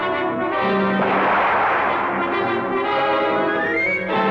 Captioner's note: soldier yelling in Russian; gun blasting